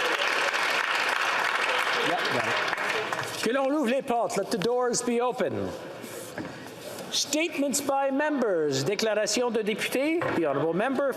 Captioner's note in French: applaudissements